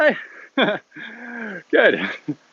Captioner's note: laughs